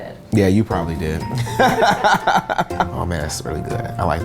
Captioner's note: laughs